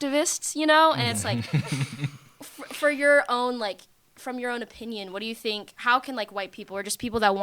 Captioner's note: laughter